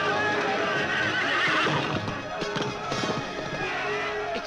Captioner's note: suspenseful orchestral music; horse whinnies